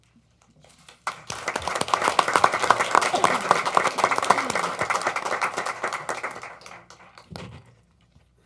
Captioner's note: applause